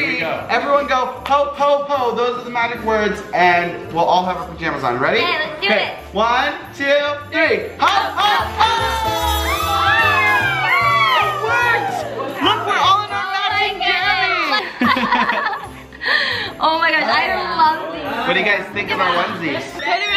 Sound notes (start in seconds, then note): 8.2 group exclaiming; 14.4 laughing